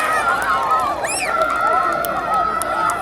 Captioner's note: jubilant cheers